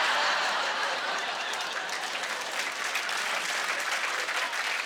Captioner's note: laughter; applause